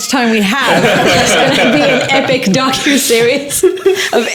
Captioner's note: laughing